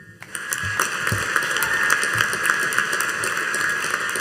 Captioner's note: audience applauding